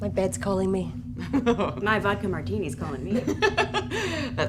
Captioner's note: laughter